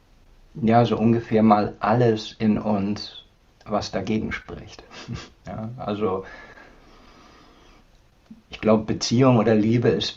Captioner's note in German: schnauben